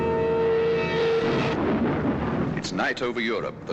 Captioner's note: bombs exploding